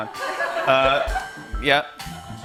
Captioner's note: laughter